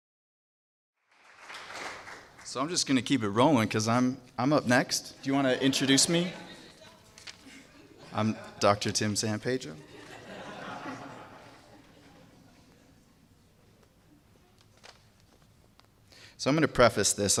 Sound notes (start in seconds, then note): 1.0 applause; 9.8 laugh